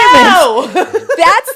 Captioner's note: laughing